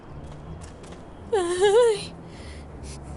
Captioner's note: whimpers